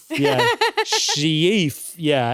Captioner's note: laughs